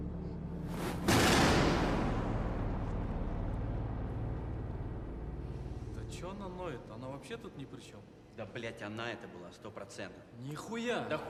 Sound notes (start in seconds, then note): 0.8 loud banging; 6.2 Russian agents speaking in a foreign language